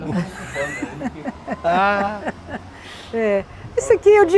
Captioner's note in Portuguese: risos